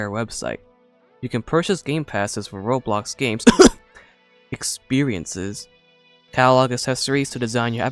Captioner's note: cough cough